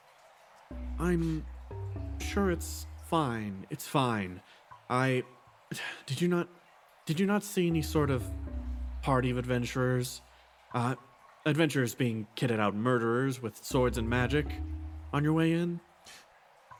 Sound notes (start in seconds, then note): 5.7 sigh